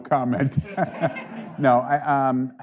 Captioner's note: audience laughing